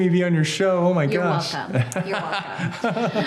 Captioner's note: laughs